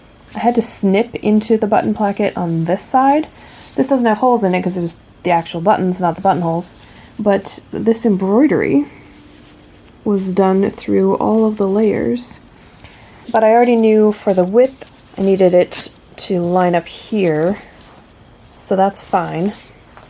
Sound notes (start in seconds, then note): none